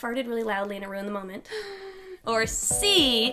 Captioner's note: gasps